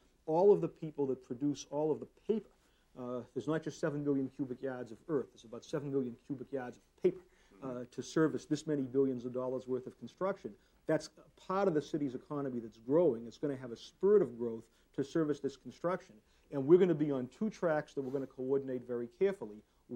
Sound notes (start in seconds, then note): none